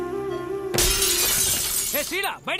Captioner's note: Glass shatters